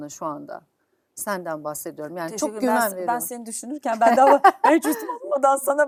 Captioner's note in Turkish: kahkaha